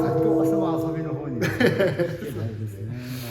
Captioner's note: laughs